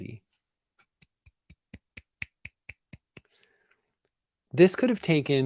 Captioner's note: claps